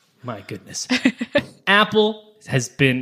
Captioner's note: laughing